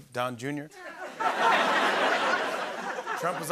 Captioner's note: laughter